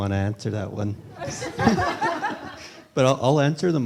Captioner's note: laughter